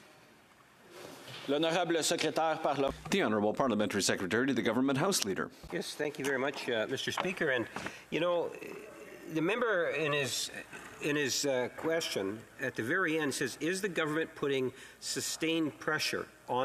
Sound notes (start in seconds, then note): 6.1 speaking French